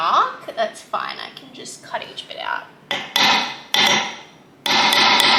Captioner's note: more hammering sounds